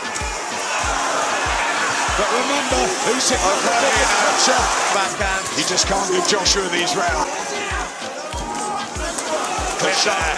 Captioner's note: crowd cheering